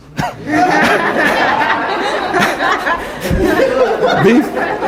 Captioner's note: laughter